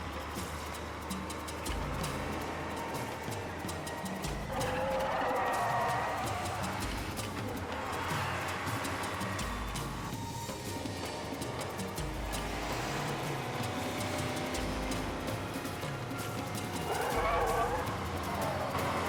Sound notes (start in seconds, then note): 6.3 dramatic music; 6.3 tires squealing